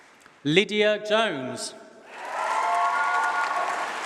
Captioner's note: applause